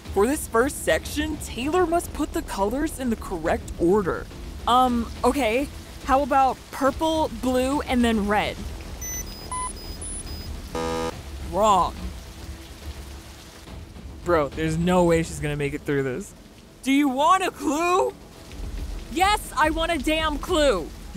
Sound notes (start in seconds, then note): 9.0 alarm buzzing; 9.0 blocks beeping; 12.3 dramatic music